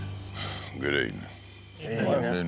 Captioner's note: sigh